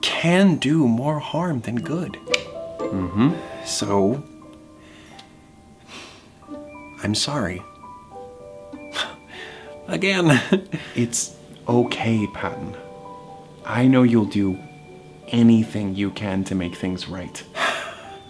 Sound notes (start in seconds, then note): 2.7 clicks tongue; 2.8 sighs; 6.4 chuckles; 17.5 sighs